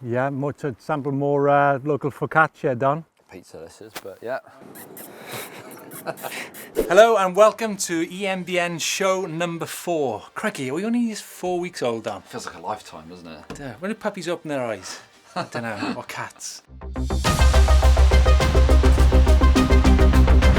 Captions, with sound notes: - Yeah, to sample more local focaccia, Don. - Pizza this is, but yeah. (kissing sounds) - Hello and welcome to EMBN's show number four. Crikey, are we only just four weeks old, Don? - Feels like a lifetime, doesn't it? - Dear, when do puppies open their eyes? I don't know, or cats. (intense electronic music)